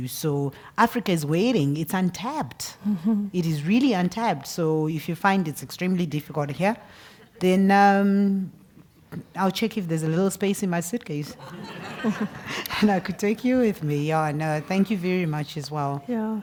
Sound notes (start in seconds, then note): 11.4 laugh